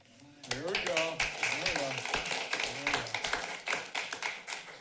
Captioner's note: applauding